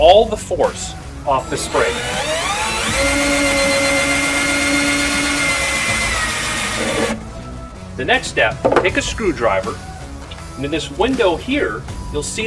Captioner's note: drilling